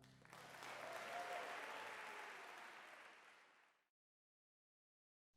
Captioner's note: audience applauding